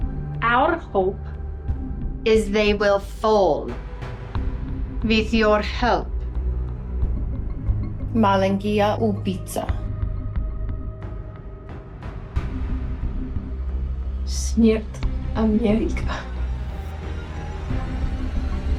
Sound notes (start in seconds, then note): 6.7 speaking in foreign language; 14.4 Anya speaking in foreign language; 18.6 slow dramatic music